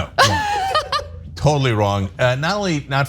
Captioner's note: laugh